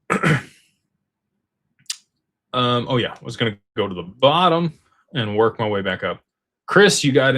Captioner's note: clears throat